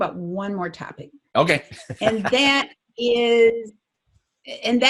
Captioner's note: chuckles